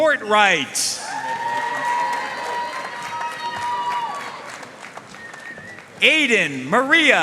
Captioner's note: audience cheering and applauding